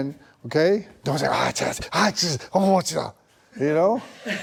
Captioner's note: audible hesitation